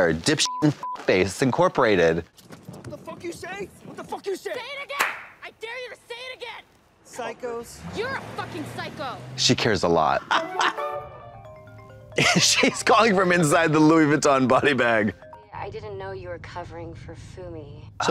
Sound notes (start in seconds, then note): 11.1 phone ringing